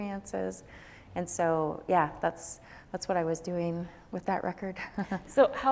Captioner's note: chuckles